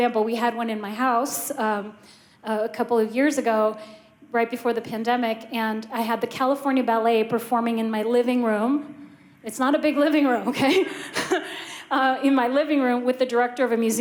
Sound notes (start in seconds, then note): 10.4 laughter